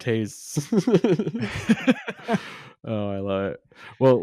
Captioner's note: both laugh